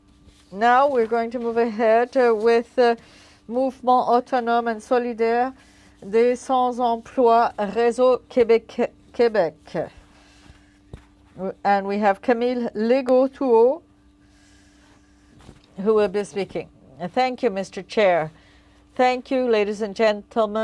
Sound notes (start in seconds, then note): 9.5 speaking French